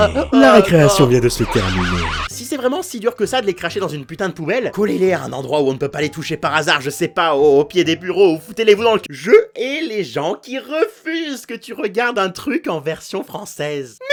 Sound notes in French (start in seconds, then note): 0.7 Bruit d'alarme distordu